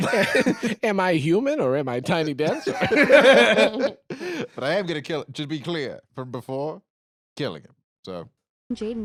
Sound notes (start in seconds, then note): 2.2 all laughing